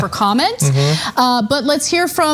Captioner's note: laugh